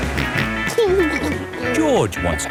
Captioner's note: snorts and giggles